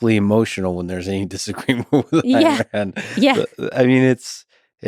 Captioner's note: chuckles